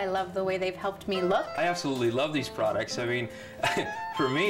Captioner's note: chuckles